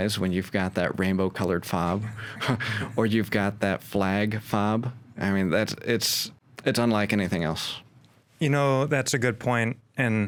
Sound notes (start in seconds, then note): 1.9 both chuckles